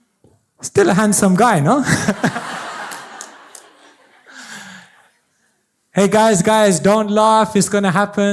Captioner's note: audiencelaughs